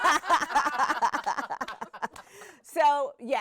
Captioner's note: everyone laughing